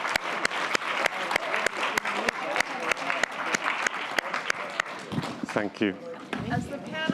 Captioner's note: applause